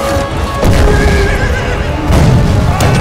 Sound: explosion

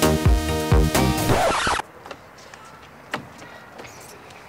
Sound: record Screeching

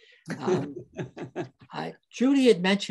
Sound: laughs

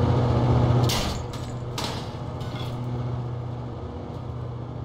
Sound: aggressive metal destruction noises

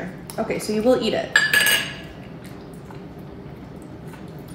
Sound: metal clanging

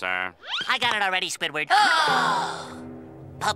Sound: gasping

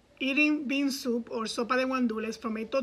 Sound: speaks in foreign language

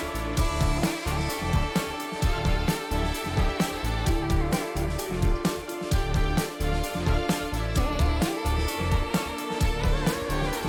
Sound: clap

